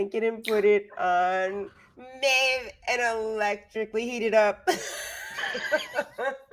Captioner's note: laughs